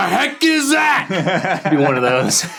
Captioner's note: laughing